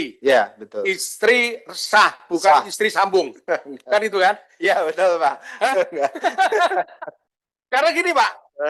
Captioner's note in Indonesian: tertawa